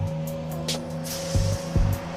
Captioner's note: none